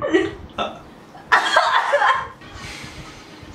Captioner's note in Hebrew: צחוק